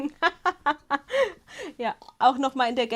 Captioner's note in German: Gelächter